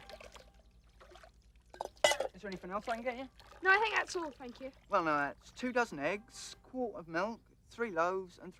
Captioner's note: none